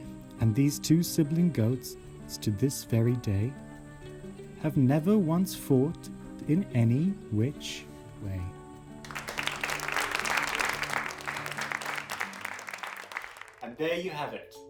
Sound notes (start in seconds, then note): 9.0 applause